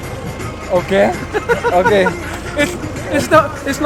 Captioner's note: laughs